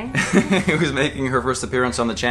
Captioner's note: laughs